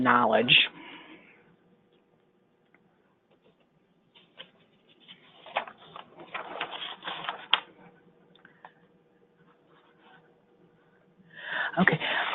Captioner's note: silence